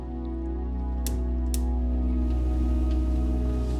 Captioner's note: clicking